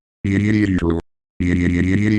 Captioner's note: barfing